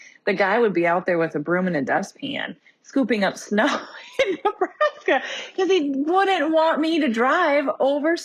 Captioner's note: laughs